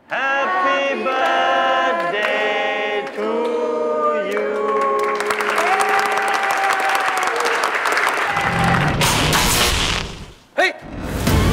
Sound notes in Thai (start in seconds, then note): 4.4 เสียงปรบมือและโห่ร้องดีใจ; 8.9 เสียงไฟช็อต